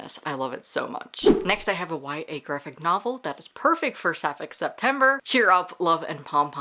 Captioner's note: whoosh